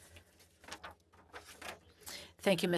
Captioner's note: speaking French